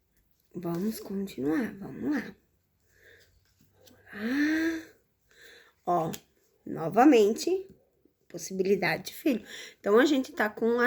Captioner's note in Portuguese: suspirando